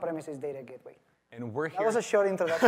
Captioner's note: laughter